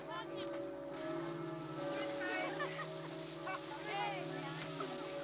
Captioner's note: bells Continue